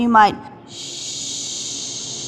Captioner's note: exhales